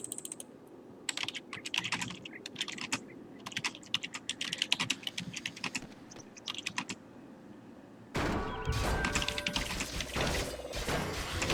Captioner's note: typing sounds again